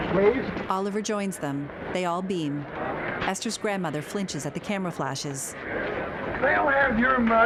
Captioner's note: crowd chattering indistinctly